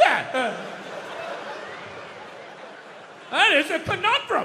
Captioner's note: crowd laughs